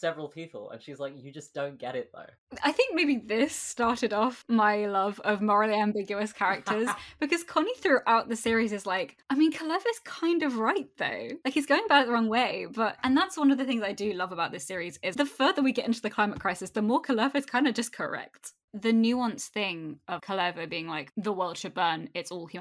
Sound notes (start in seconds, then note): 6.6 laughs